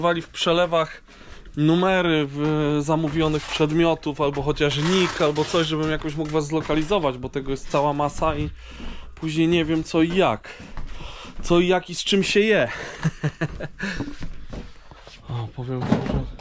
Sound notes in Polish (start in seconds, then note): 12.7 śmiech